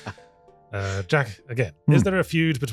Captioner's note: laughing